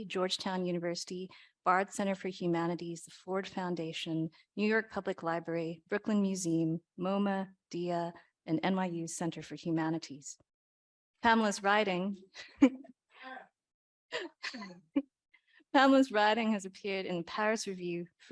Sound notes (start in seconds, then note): 14.2 chuckles